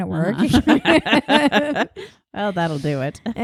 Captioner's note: laughing